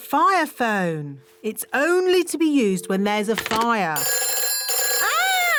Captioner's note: phone rings